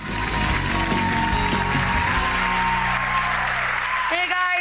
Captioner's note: audience cheering and clapping